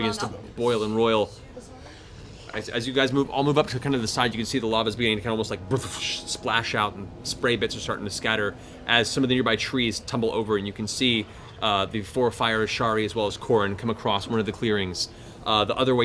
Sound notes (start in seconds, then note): 5.1 bubbling